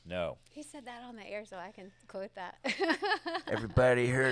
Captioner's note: laughs